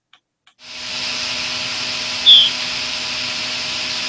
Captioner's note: bird chirping